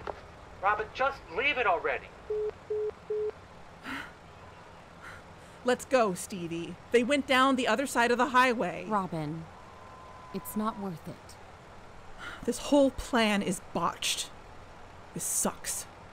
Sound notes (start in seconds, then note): 3.1 hang up beeps